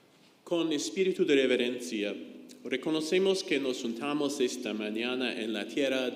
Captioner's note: speaks in foreign language